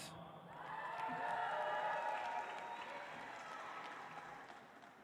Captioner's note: audience applauds